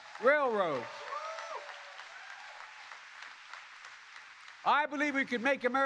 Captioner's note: applause